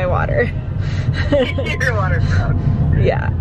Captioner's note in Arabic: ضحكات خافتة